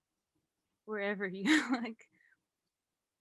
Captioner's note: laughs